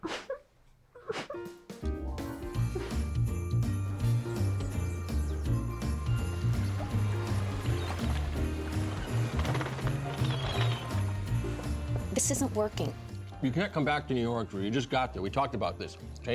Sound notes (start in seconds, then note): 0.1 whimpering; 10.2 seagulls squawking